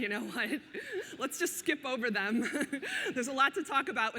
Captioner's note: laughs